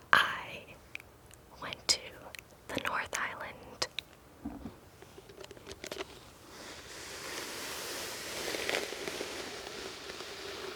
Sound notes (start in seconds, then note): 6.6 hair brushing